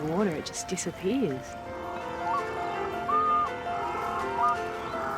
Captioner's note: penguins trill